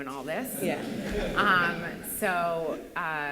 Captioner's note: laughter